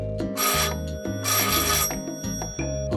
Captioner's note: the doorbell rings